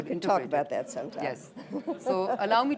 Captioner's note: laughter